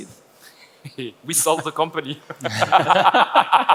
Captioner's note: laughs